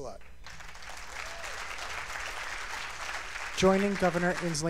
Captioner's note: cheers and applause